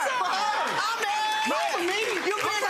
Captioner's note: audience applauds